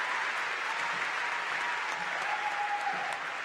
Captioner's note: applause